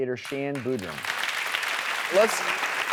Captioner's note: applause